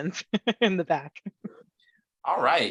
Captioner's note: laughs